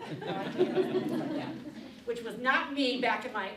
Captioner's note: audience laughing